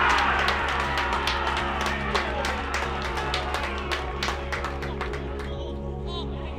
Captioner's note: crowd cheers; bright music